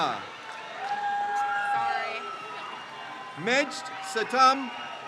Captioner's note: crowd cheers